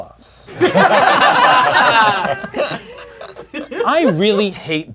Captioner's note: crowd laughing